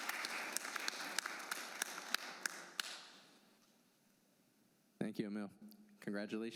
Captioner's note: applause